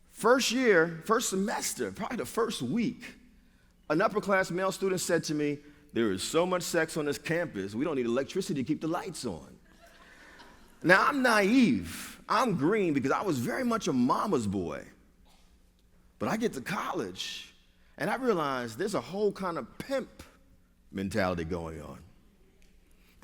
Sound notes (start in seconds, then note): 9.6 laughter